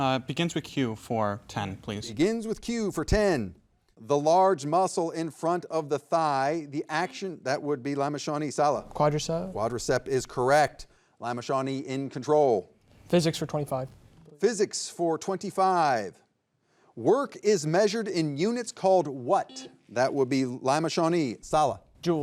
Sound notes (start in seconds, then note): 19.5 buzzer buzzing